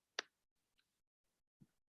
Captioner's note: none